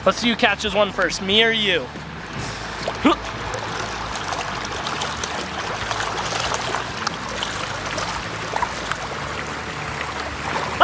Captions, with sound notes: - Lets see who catches one first, me or you. (Water Splashing)